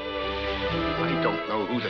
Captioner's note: fuse sizzles